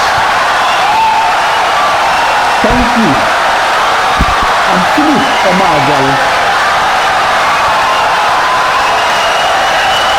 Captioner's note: wild applause and cheering for 17 seconds